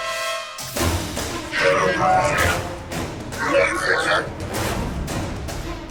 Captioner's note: Breen speaking